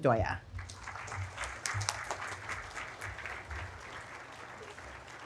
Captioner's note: audience applauding